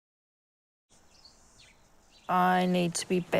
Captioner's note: cicadas chirp, birds sing